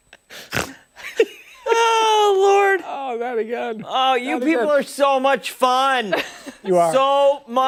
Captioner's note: laughter